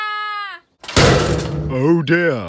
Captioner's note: crash!